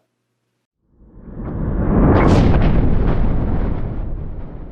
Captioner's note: thunder rumbling